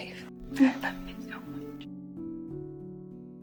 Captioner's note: voiceover